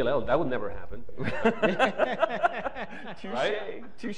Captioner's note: laughter